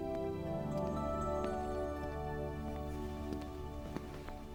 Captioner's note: approaching footsteps